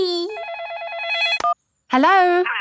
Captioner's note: phone ringing